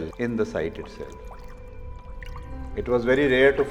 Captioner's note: water lapping